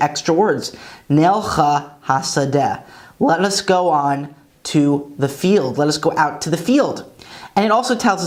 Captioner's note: Hebrew